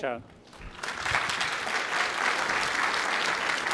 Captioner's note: applause